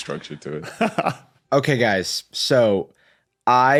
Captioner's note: laughs